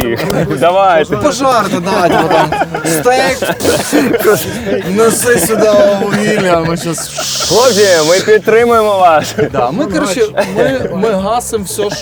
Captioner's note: making flamethrower sounds